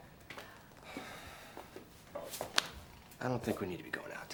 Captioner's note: Addison softly sighs